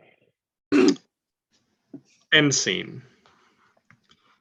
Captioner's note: awkward beat